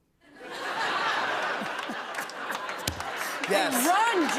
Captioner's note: laughter